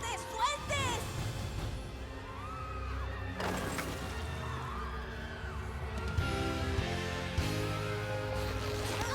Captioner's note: screams